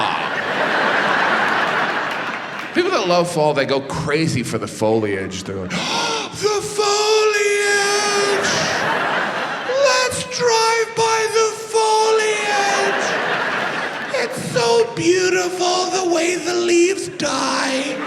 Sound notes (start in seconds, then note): 0.0 audience laughs; 5.7 gasps; 17.2 audience laughs